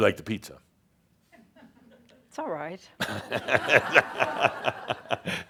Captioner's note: laughter